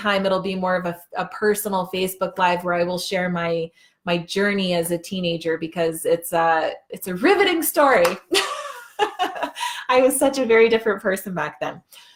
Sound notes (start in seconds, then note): 8.8 laughing